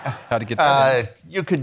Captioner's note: attendees laughing